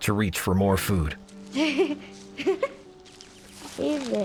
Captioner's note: laughs